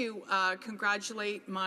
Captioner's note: speaking French